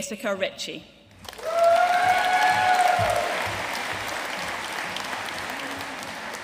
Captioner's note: audience cheering and applauding